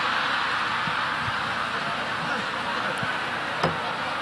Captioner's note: audience laughing